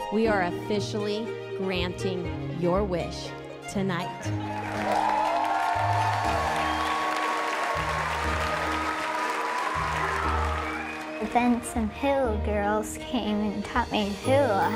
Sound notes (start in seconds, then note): 4.4 crowd cheering